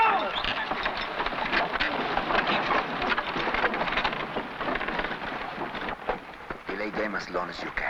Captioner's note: carts rattling; objects clattering